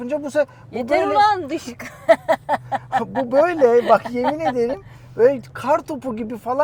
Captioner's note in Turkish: kahkaha